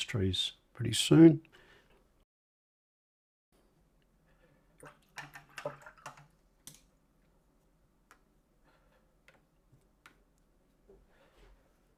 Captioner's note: silence